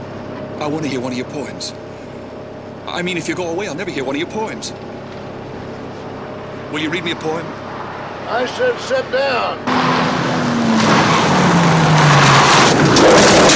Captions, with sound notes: I wanna hear one of your poems, I mean, if you go away I'll never hear one of your poems. Will you read me a poem? - I said sit down. (tires squealing)